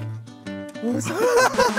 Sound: haha

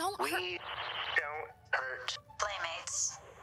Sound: radio

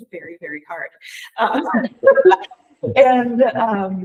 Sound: people chuckle

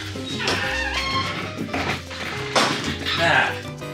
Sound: more Squeaks

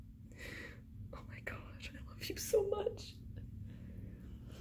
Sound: whispering

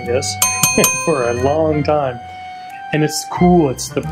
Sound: bell dinging

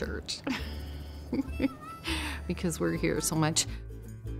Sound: laughs

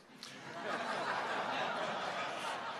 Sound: laughter

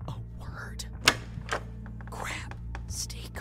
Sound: light switches on; whispering

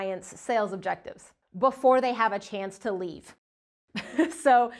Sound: chuckles

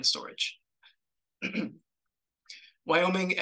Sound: throat clears

